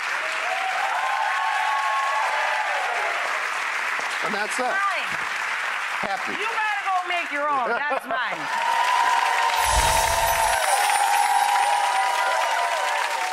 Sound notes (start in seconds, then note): 0.2 audience applause; 8.5 audience applause